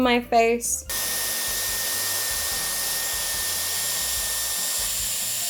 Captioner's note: hair dryer blows